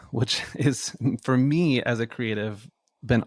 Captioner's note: laughs